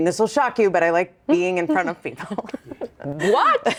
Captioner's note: chuckles